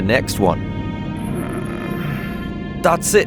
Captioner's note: Gareth moans